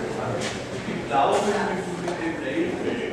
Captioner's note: conversations in the background